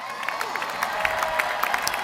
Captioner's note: applause